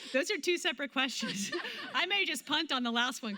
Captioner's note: laughter